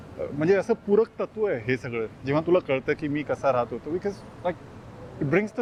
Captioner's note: street noise